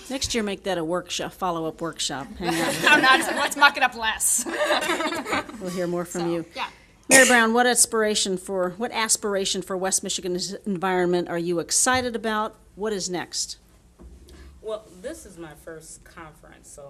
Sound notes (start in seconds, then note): 2.4 audience laughing